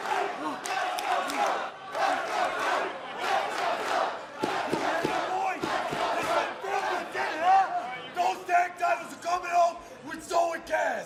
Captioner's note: fans chanting